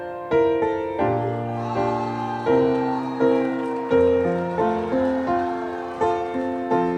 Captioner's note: audience shouting encouragement